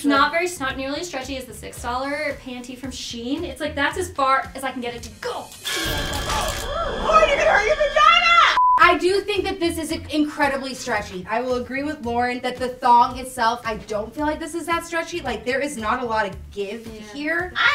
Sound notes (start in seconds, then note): 5.6 eerie music; 5.9 crunching sounds